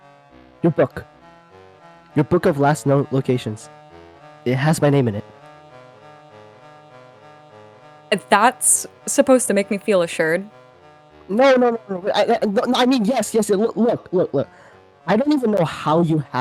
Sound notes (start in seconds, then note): 11.4 stutters